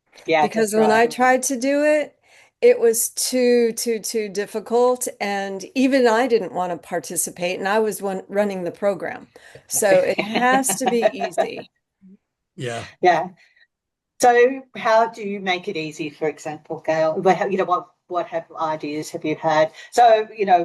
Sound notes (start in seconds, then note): 9.6 laughs